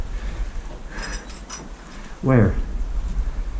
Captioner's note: breathing heavily